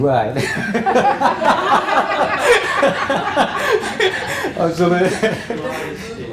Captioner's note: laugh